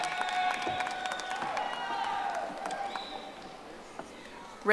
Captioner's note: audience applauding